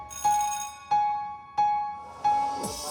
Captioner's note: bell rings